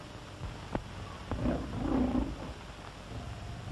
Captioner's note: tiger growling